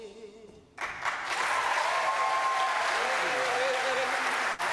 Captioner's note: audience applauds